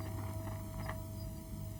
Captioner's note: wings fluttering